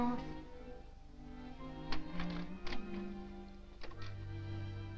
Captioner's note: lock clicking